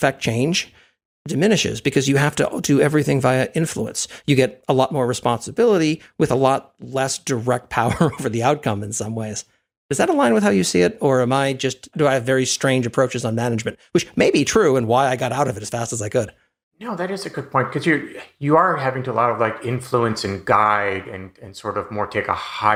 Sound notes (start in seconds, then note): 7.8 laugh